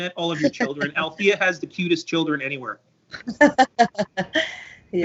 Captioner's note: laughter